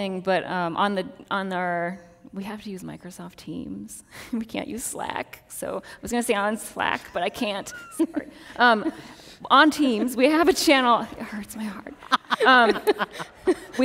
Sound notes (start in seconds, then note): 7.4 laughs; 12.0 laugh